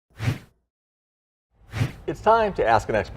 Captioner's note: swoosh